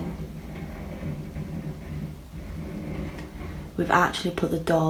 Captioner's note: scratching and banging